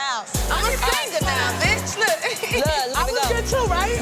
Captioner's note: laughing